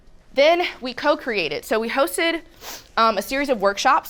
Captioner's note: sniffs